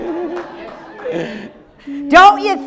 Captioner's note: audience laughing